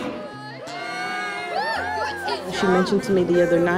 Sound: cheering

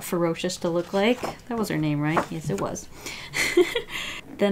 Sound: laughs

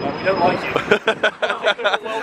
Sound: laughing

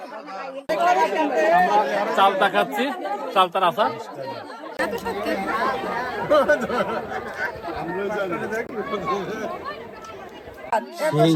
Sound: loud laughter

